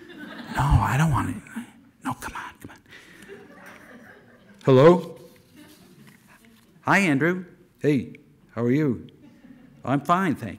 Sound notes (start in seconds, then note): 0.0 whispering; 0.0 audience laughter; 0.2 as Andrew, whispering; 2.0 as Casey-Lee, whispering; 3.0 audience laughter